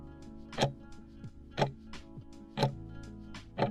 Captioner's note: timer ticking